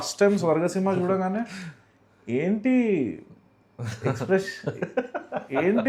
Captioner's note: laughs